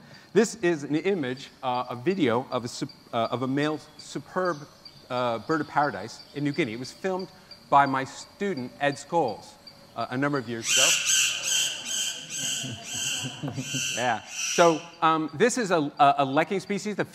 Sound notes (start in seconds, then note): 10.5 bird screeching